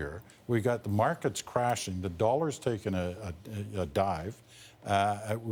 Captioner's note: none